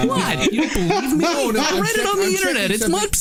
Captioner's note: laughing